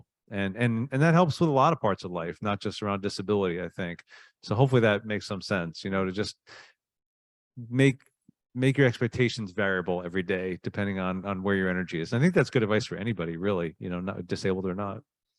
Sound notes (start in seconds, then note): none